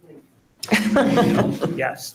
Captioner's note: all laughing